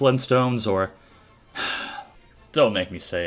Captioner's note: sigh